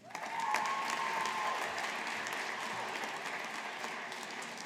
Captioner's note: audience applauding